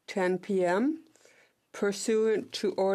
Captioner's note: speaking French